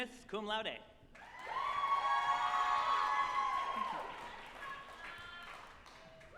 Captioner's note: group applauding and cheering